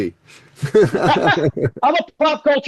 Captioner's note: laughing